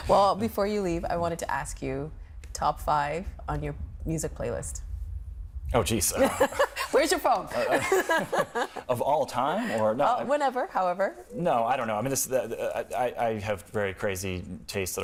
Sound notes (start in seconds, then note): 5.4 laughing